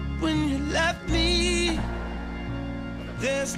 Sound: footsteps thudding

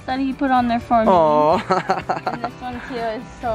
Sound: chuckles

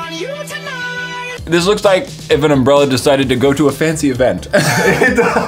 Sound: ha ha

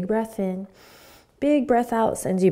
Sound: inhaling

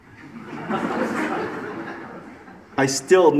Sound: audience laughs

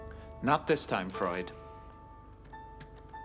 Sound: none

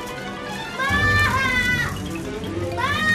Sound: wails

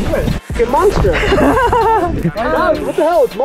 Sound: laughs

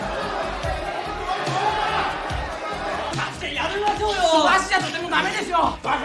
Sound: applause

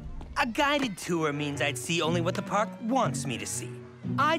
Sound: none

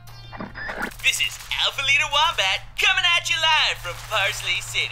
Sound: radio noise

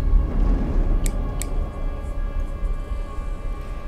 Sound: clicking

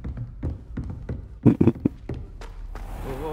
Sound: muffled laughter

